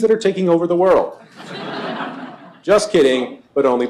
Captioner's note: laughter